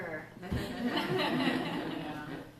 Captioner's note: laughter